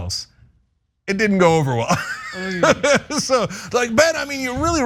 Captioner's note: laugh